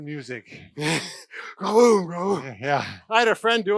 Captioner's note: imitates loud bass